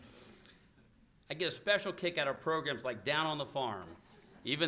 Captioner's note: laughter